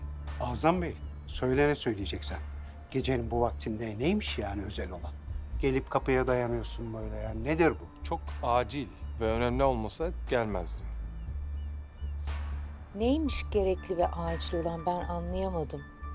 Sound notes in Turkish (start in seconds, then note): none